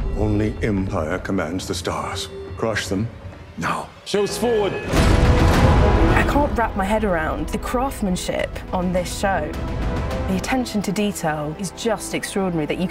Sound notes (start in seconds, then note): 4.7 gun's firing